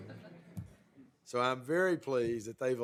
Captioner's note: laughter